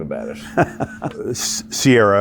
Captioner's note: chuckles